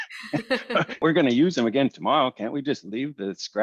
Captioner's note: laughter